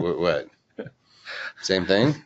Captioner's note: laughs